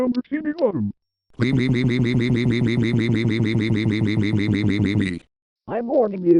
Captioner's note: excited sounds